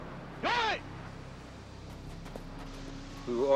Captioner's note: dramatic music; shouting in foreign language